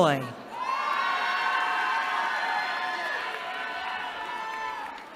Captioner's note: cheering